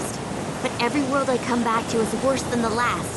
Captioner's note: none